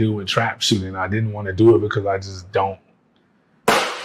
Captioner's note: plate smashing